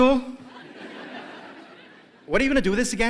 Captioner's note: laughter